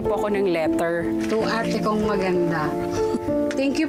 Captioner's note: giggles